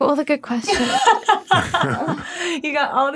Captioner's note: laughing